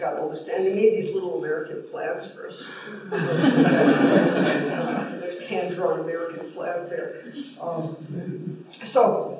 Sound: laughter

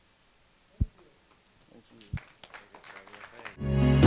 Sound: applause

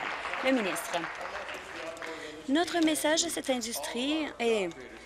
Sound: applause

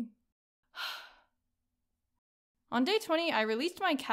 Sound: sigh

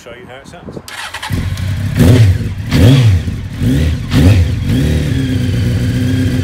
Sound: engine starting up, revving

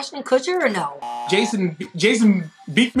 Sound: buzzer rings

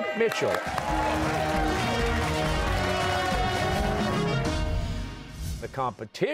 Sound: cheers and applause

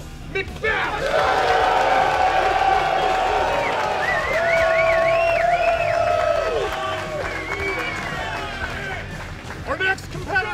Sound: cheers

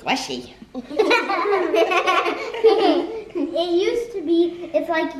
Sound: laughter

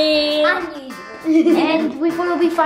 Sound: laughing

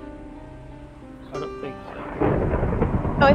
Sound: thunder crackles

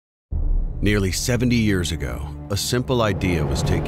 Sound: voiceover

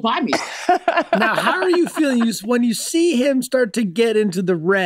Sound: Megan laughs

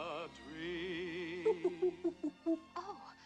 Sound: hoots

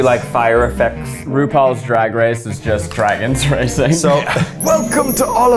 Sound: laughs

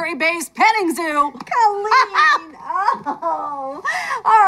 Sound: laughs

